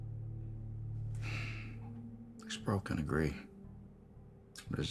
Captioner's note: sighs